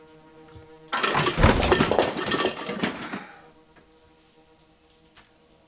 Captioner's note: glass clatters